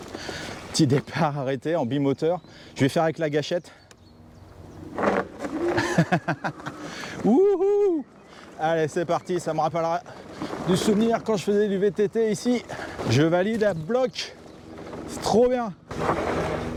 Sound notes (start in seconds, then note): 5.4 laughs